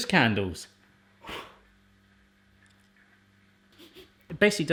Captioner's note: blows; sniffs